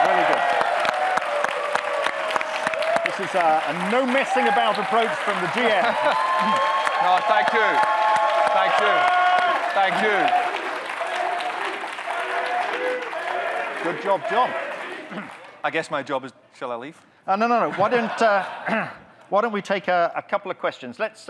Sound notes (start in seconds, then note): 0.9 audience clapping, cheering; 6.1 audience cheering, clapping